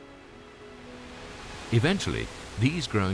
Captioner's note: waves whooshing